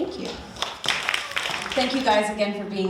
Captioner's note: audience applauding